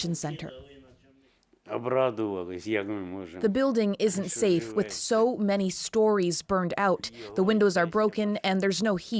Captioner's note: speaking alternate language